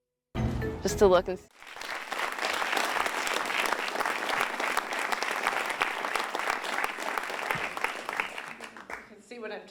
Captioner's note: applause